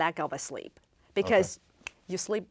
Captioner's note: finger snaps